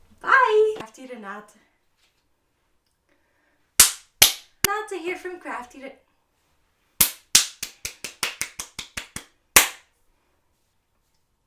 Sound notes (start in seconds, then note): 2.0 claps; 7.3 claps